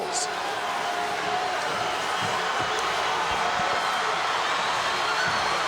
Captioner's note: audience cheering